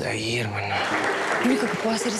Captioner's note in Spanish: Aplausos